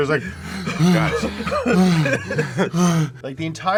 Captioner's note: heavy panting